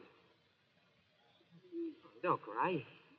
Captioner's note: sobs